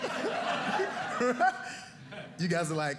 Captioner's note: audience laughing